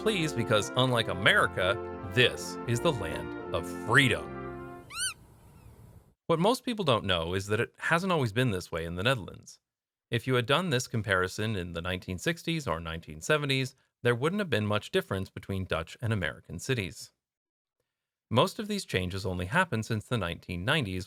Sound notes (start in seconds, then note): 4.8 squeak